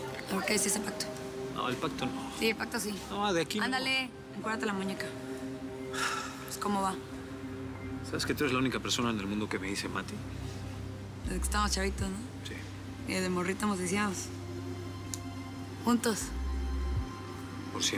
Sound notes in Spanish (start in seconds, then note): 5.9 suspiros